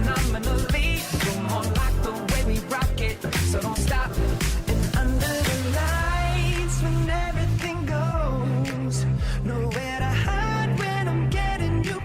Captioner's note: applause